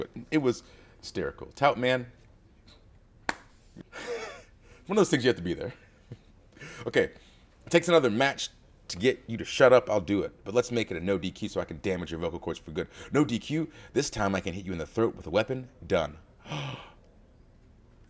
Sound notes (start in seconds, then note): 3.9 laugh